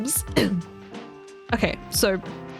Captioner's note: clears throat